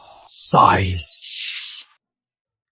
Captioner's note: sighs